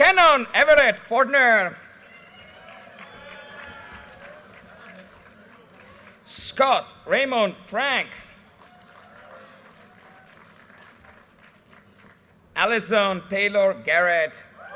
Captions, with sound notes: Cannon Everett Fordner. (audience cheers and applause) Scott Raymond Frank. (audience cheers and applause) Alison Taylor Garrett.